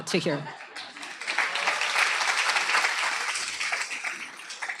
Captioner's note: applause